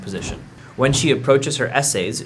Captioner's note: air whooshing